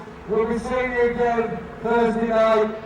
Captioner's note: loudspeaker